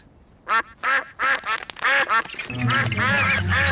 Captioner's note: all quack